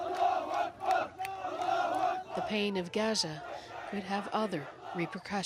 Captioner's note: chanting